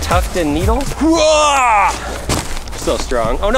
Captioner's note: grunts